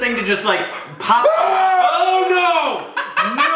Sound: shouting; laughing

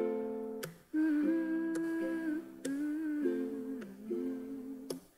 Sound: humming

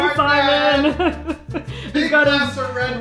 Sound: laughter

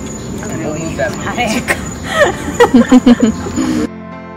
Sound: group laughing; soft music

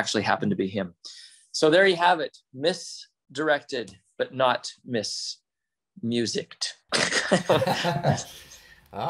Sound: laughs

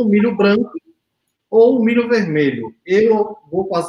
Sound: speaks portuguese

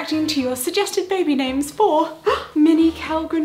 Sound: gasps

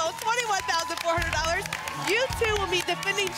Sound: applause and cheering cont

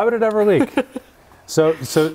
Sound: laughs

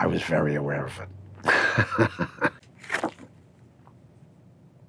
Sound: chuckling

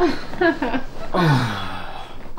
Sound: karl sighs

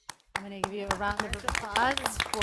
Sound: board members clapping

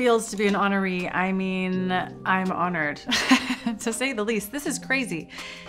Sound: laughs

